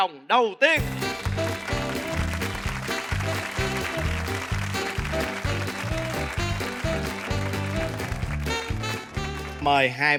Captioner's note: applause